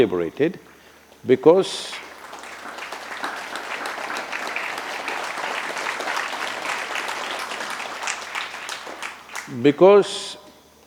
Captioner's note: applause